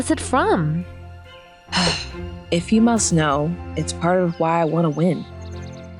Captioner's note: sighs